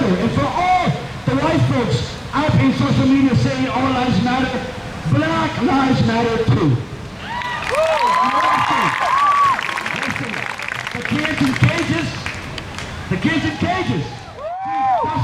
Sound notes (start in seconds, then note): 7.2 crowd cheers